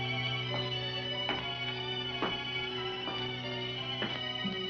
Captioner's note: slow footsteps